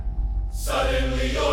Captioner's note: rising electrical hum